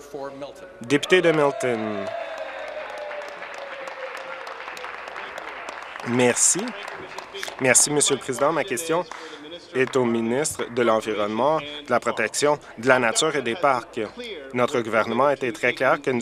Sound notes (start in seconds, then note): 5.7 applause; 6.4 cheers